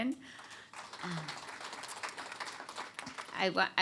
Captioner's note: applause